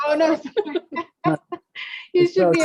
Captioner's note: everybody laughing